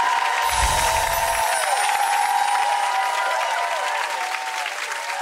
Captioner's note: applause; sparkle noise